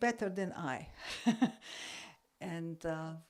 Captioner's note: laugh